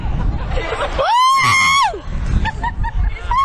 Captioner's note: screaming